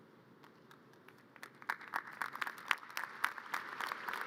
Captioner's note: audience applause